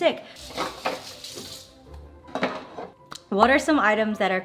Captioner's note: dishes clanking; water splashing